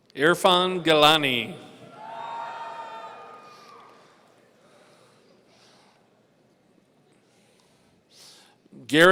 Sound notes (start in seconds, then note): 1.8 audience cheering